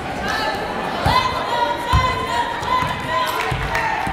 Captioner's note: yelling